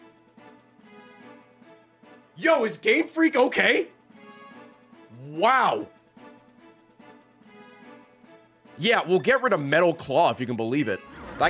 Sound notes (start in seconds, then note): none